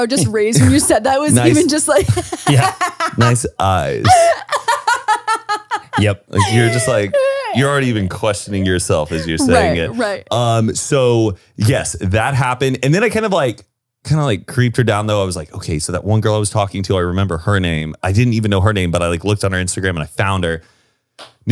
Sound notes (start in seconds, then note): 2.7 laughs; 4.3 laughs